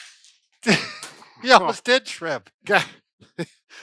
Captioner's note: laughs